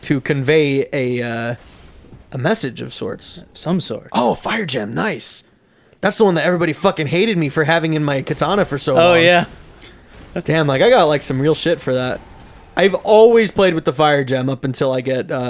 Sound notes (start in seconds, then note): 3.7 echos; 10.0 laughs